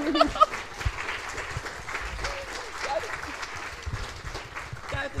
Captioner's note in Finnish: Aplodeja